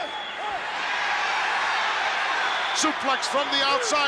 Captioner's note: crowd cheers